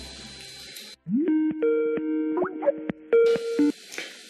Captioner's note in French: sonnerie Skype